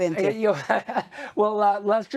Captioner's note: chuckling